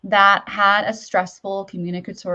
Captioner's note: none